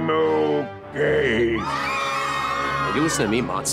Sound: screaming

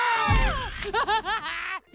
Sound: screaming; laughing

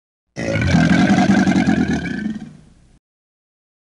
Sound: alligator growling

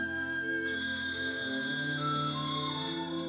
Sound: phone ringing; music fades out

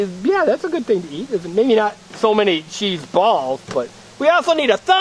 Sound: voiceover

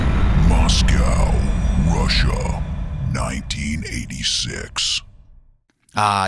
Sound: dramatic voice

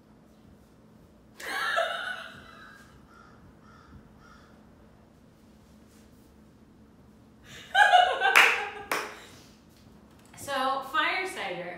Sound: laugh and clap

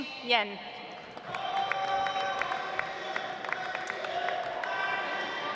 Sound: audience applauds

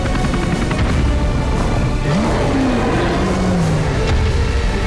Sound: creature roaring

